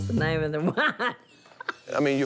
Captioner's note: laughs